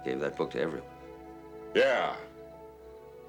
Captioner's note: gentle music; sighs